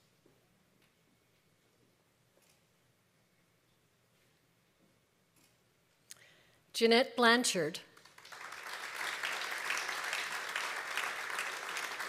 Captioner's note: applause